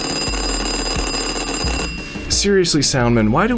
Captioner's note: ringing